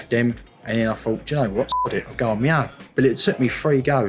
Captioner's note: beep